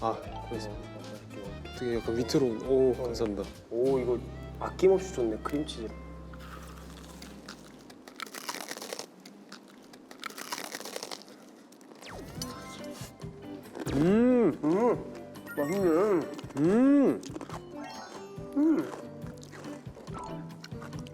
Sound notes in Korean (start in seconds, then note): 10.3 와그작